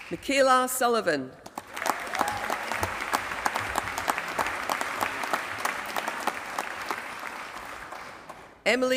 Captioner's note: applause